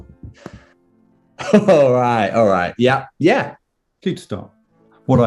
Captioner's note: laughing